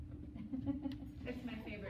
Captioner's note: laughs